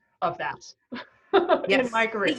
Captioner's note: laughing